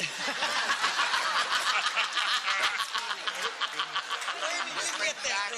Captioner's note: laughter